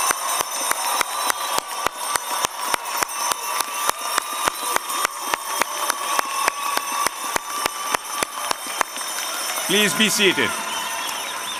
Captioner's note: applause